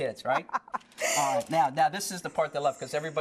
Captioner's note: laughter